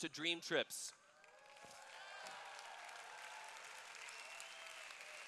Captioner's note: cheers